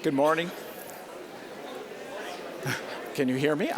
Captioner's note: general chatter